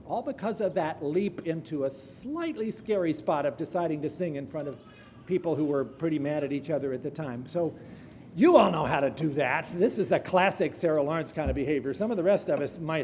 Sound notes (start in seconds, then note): none